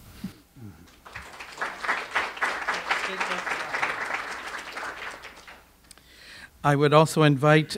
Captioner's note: audience applause